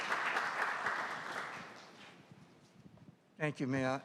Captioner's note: applause